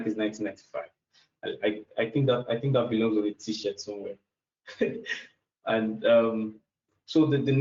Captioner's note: laughs